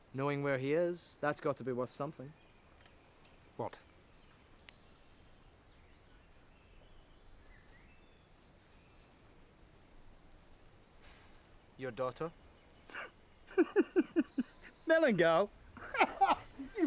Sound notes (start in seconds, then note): 5.5 birds chirp; 15.7 laughs